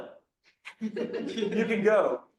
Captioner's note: laughter